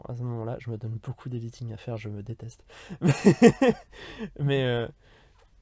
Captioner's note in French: Rires